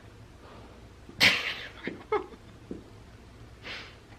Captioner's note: laughs